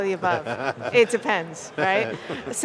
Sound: laughs

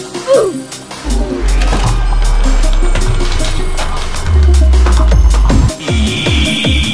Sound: enderdragon dead sound

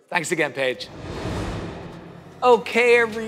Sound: air swooshing

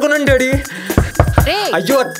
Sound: door banging sound

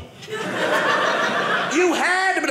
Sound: audience laughing

